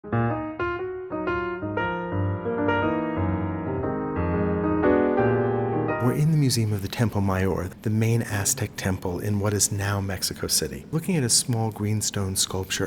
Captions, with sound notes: (jazzy piano music) - [Voiceover] We're in the museum of the Templo Mayor, the main Aztec temple in what is now Mexico City, looking at a small, green, stone sculpture